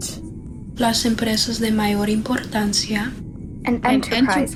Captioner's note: girl speaking foreign language